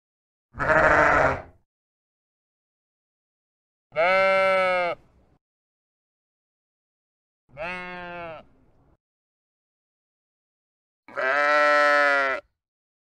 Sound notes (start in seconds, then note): 0.5 another sheep baas; 7.5 copyright free sheep baas; 11.1 sheep bahs